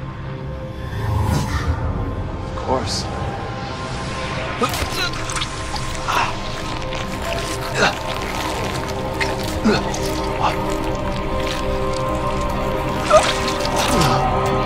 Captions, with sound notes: - Of course. [Groaning] [Grunts] Uh!